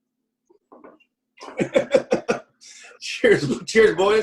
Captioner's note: laughs